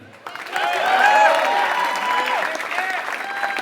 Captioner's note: applause